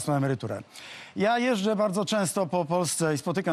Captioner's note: breath-in